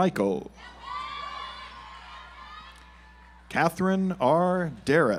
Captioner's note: audience applauds